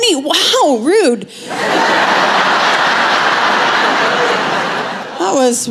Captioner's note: laughter